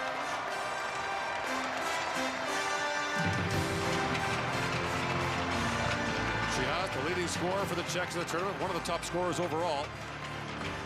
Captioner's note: cheering and Applause